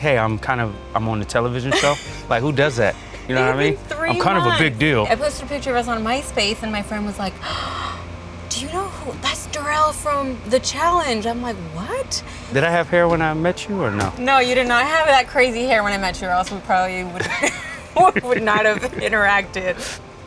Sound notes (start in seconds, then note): 1.7 laughs; 7.4 gasps